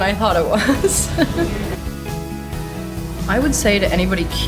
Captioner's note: laughs